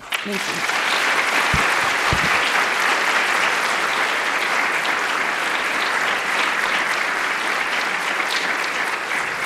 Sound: applause

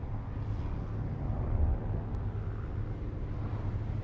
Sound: plane engine buzzing in distance

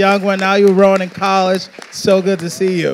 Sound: audience applauding

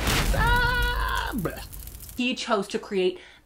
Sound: kindling burns gayly

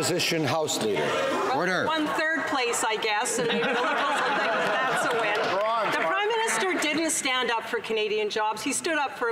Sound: some Applause

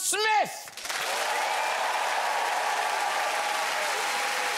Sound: audience cheers

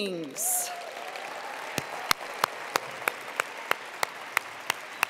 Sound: attendees applauding

